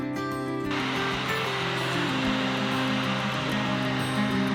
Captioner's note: air blowing